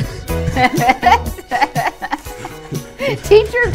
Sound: man and woman laughing

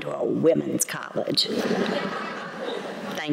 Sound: laughter

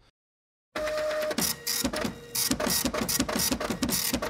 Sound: computer printing

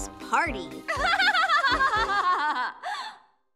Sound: laughing

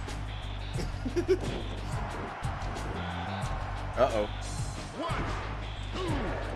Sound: laugh

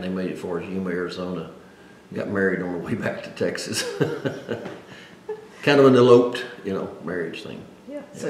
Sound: laughs

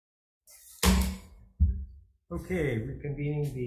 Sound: gavel thudding

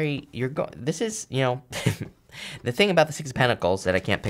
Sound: chuckles

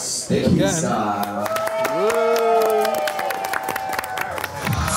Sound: clapping

